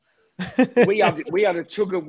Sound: laughing

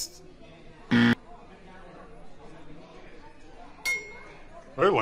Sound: buzzing sound

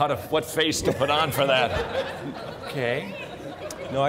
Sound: crowd laughing; laughing

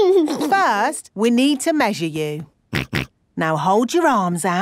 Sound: snorts

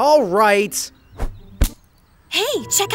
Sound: body thudding

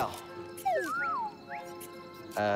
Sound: whistle

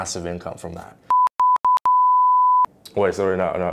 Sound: beeping

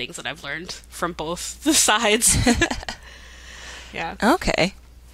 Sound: laughing

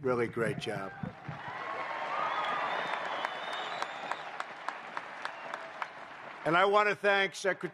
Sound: applause

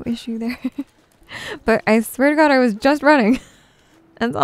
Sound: giggles

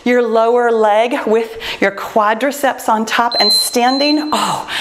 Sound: timer beeps

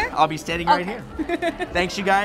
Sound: laughs

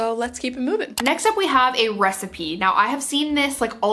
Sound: mouse clicks

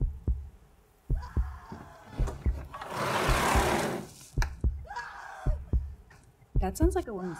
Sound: loud heartbeat continues; woman screaming

